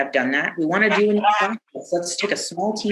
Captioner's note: audio blurs